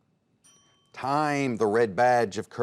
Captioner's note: ding